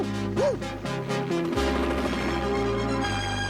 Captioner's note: barking